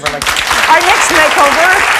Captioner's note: audience clapping